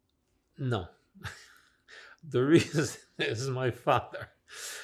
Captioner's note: laughing